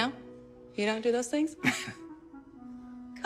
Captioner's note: chuckling nervously